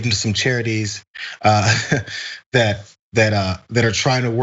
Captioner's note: laugh